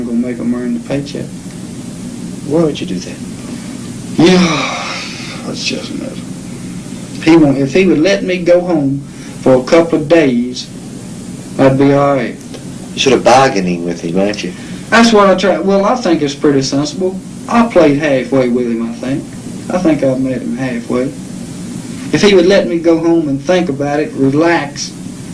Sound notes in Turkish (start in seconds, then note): 4.2 iç çeker